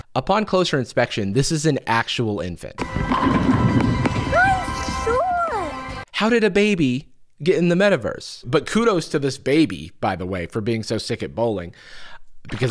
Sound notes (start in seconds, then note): 2.8 bowling pins falling; 4.3 baby exclaiming